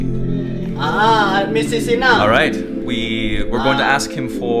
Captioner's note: ethereal music; man comments in foreign language